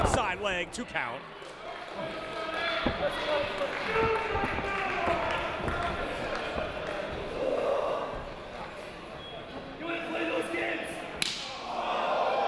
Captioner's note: applause